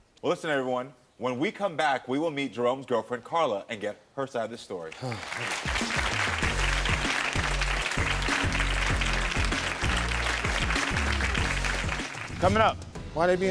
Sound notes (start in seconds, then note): 4.9 audience clapping; 4.9 sighs; 5.0 upbeat music; 12.8 tense music